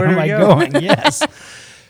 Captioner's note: laughter